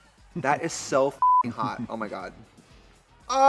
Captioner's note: beep